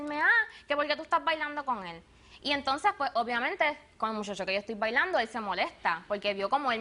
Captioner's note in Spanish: none